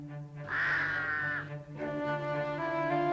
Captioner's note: cawing